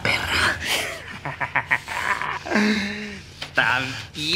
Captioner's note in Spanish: Risas